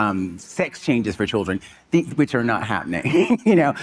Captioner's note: chuckling